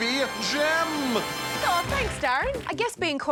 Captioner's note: audience applause